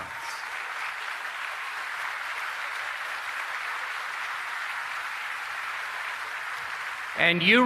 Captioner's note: applause